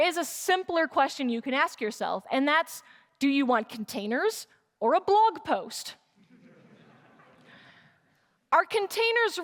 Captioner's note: laughter